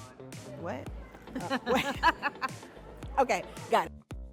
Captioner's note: laughs